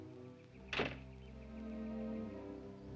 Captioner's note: ominous music; door closes; ominous music